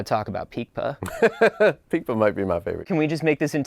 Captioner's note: laughing